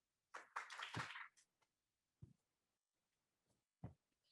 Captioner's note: audience claps